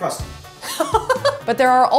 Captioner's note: laughs